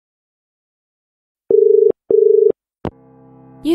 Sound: dial tone

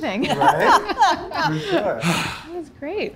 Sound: joyous laughter

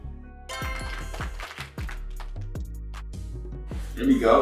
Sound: applause sound effect plays

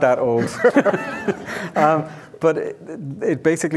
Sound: audience laughing

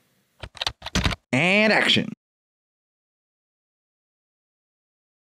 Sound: typing

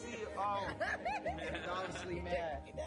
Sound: laughing

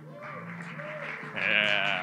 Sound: audience cheers

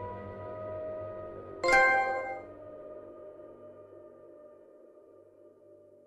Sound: trophy ding

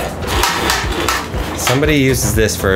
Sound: clamp rattling

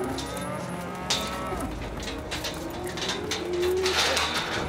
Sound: cows mooing; gate clanking

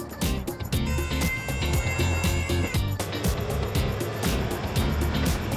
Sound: hydraulics and vehicle engine noises

